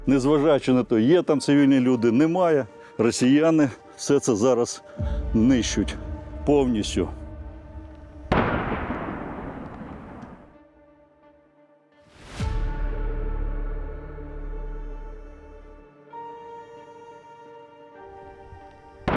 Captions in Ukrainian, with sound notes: Не зважаючи на те, є там цивільні люди, немає - росіяни все це зараз знищують. Повністю. [звук вибуху]